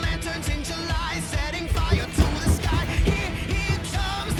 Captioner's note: footsteps on the stairs